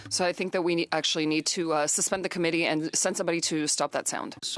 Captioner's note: speaking French